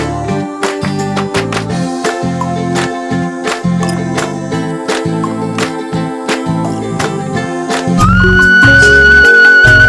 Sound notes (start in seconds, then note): 1.3 applause